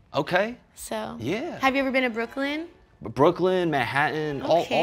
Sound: none

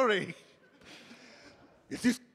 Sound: audience laughing

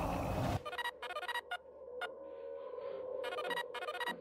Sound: cell phone chimes

